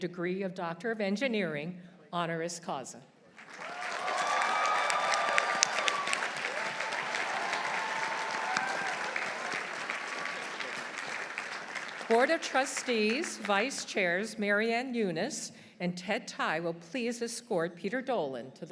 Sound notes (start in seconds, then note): 3.4 audience applauding; 3.4 audience cheering